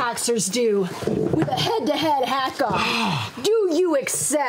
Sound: gasp

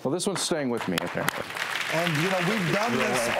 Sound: applause

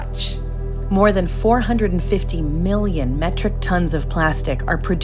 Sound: voiceover

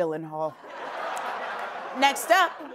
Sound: laughter

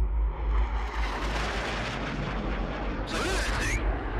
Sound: airplane engines roaring

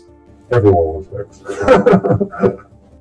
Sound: laughts

